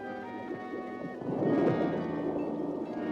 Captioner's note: ominous music; underwater splash; ominous music